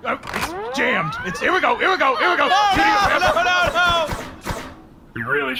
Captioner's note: several shots fire in quick succession; sound of gun charging up